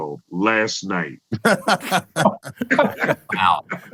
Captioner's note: laughter